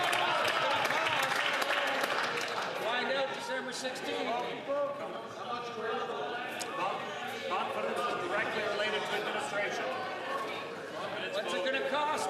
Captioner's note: some Applause